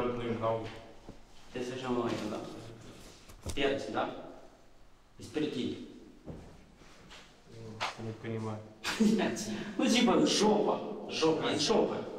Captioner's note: telling sarcastic geography jokes